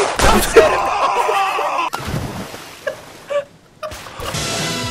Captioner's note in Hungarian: nevetés; sikítás; főcím zene